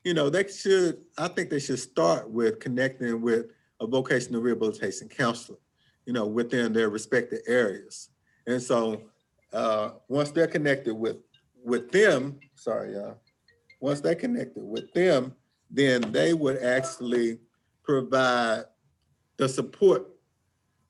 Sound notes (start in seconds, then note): 13.3 phone ringing